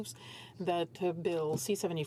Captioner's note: speaking French